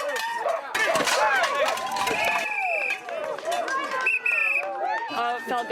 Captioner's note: crowd cheering; whistle blowing